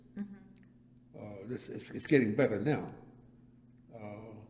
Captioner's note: none